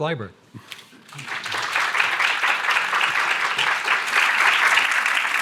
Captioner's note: audience applause